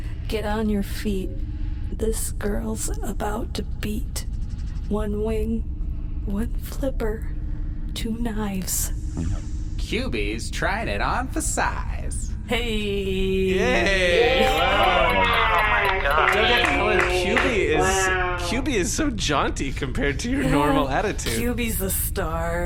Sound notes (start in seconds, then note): 17.2 everyone applauds